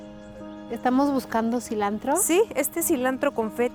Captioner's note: Pati speaking Spanish; speaking Spanish